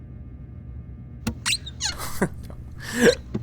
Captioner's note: door opening and shutting squeakily; cabinet door squeaking repeatedly